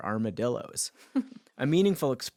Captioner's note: laughing